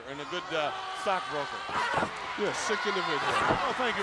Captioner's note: crowd cheering